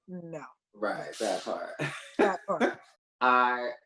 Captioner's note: chuckles